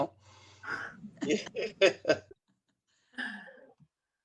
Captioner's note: people laughing